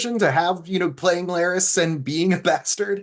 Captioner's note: chuckles